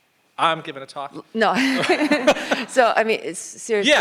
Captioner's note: laughs